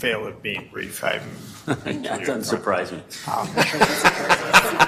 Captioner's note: laugh; laughter